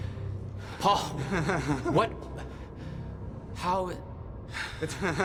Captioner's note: in distress; laughs